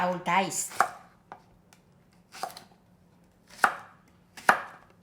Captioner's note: knife chopping